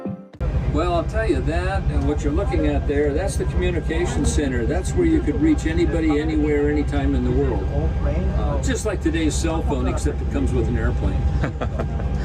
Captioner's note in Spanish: voces